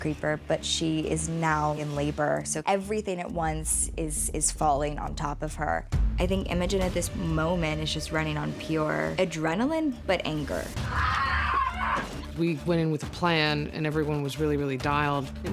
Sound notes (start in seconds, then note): 10.6 imogen yells